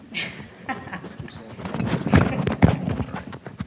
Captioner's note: laughs